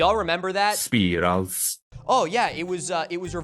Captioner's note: robo voice